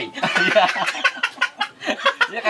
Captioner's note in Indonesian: ketawa monyet